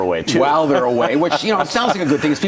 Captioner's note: laughs